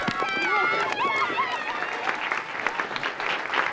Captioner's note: audience applauding